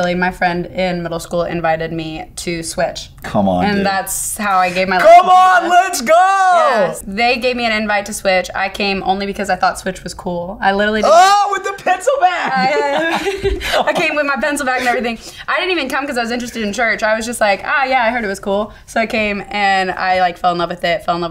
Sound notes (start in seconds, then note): 12.2 both laughing